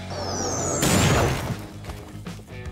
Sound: upbeat rock music begins; explosion booming; upbeat rock music continues

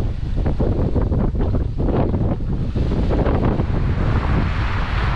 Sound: wind blowing

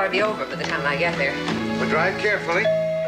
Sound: doorbell rings

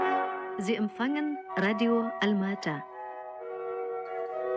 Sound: in German

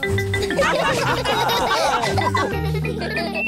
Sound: laughter

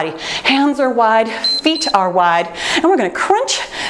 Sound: timer beeps

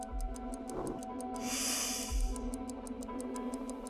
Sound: sniffing

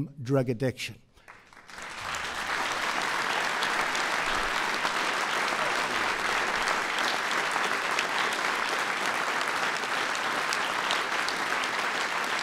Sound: applause

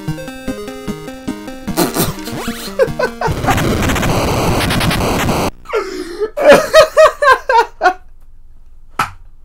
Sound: blows raspberries, then begins to laugh

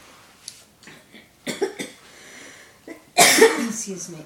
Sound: coughing

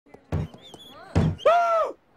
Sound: door Creaks

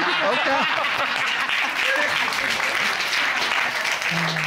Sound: applause

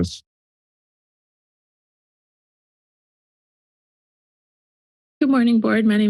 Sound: silence

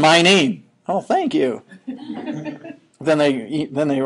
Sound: students laughing

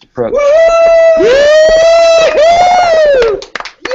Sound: cheering

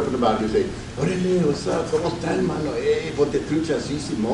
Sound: speaks Spanish

